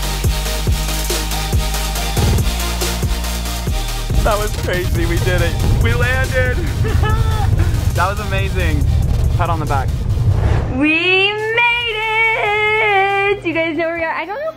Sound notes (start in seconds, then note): 6.5 laughs